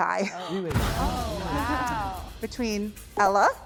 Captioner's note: group gasps